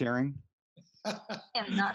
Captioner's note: laughs